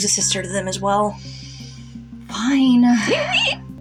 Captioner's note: inhale; whiny Wimpering